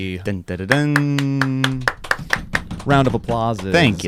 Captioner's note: applause